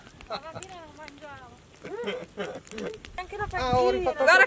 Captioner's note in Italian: risate